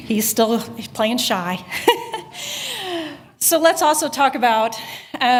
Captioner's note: laughter